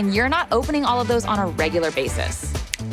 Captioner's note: snapping